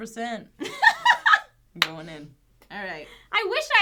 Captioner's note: laughing